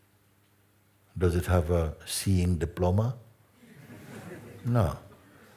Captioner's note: laughter